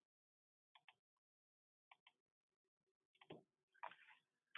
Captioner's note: keyboard clicking